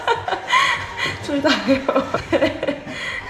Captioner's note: laughs/cries